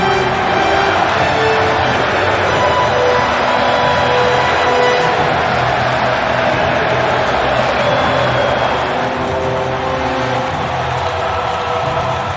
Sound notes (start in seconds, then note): 0.1 grand orchestral music continues; 3.2 crowd cheering